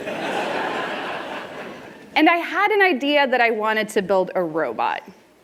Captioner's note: laughter